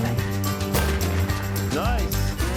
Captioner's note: rifle fire cracking